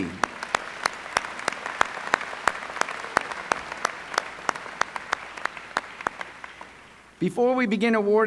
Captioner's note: applause